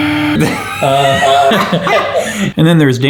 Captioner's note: sighs deeply; laughs